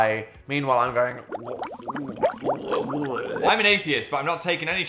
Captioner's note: water gurgling; Dan gurgling